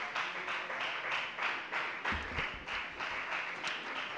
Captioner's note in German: Beifall bei der FDP